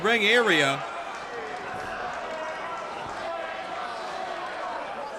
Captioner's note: crowd yells